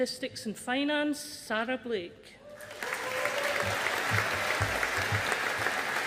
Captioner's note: audience applauding